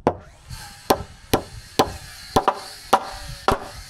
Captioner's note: hammer tapping